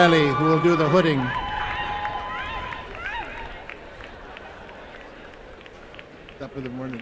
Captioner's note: applause and cheering